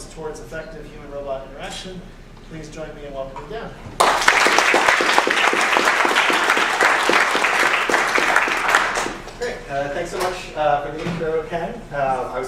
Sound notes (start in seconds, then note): 4.0 applause